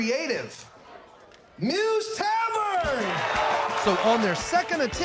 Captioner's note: crowd cheering, clapping